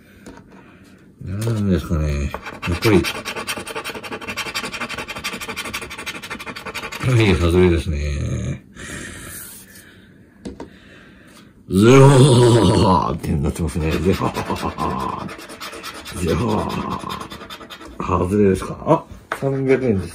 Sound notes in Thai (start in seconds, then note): 13.8 หัวเราะแบบ มาแชล ดี ทีช